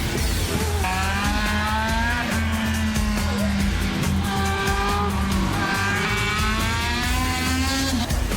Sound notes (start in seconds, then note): 0.0 engines roaring